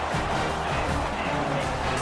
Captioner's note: crowd Noises